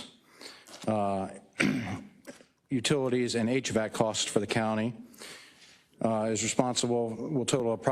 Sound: cough

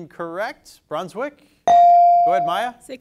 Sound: bell dings

